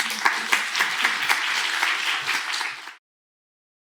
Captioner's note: applause